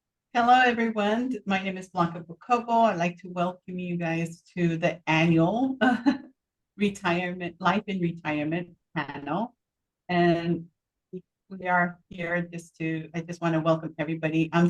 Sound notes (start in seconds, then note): 6.6 chuckles